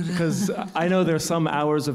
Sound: laugh

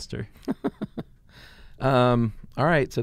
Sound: laughing

